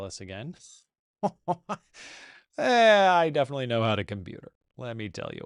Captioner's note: laughs